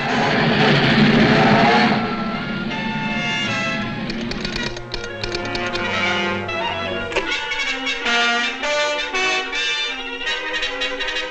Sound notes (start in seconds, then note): 0.2 train horn blows; 4.0 machine clicks